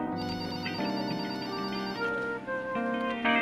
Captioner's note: phone ringing; soft synthesizer music